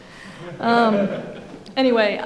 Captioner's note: audience laughing